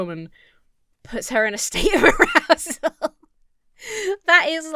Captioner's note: laughs